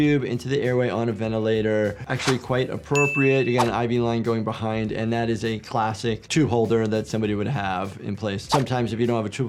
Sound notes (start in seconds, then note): 2.9 graphics dinging; 3.2 graphics swishing; 3.4 graphics whooshing; 8.5 graphics whooshing